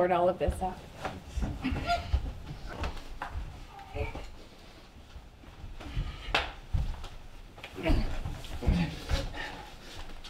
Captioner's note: struggling. gasping